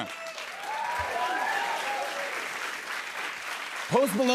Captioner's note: cheers and applause